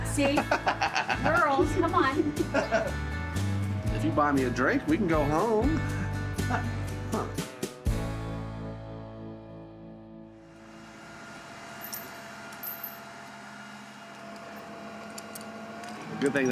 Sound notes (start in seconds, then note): 1.7 laughing; 10.8 equipment whirring